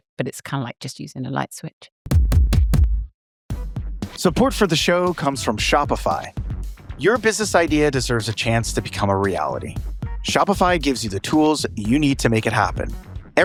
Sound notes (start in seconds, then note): 2.1 upbeat music; 4.3 voiceover